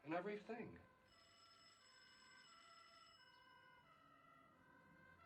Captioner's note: phone Rings; siren Wailing